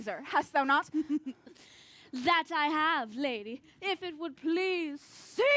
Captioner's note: laughs